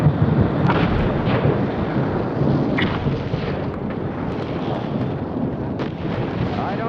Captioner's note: explosions